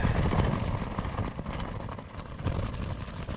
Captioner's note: strong wind